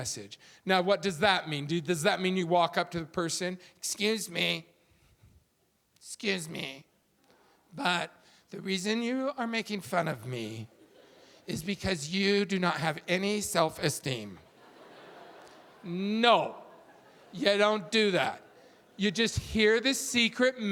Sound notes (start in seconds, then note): 14.4 audience laughing